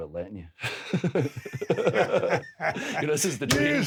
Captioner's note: Drew and Steve laugh